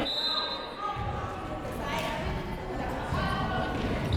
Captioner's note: whistle blows